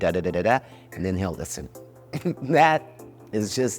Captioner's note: laughs